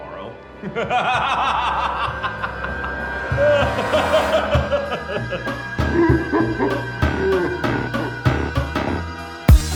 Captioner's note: laughter, slowly becomes distorted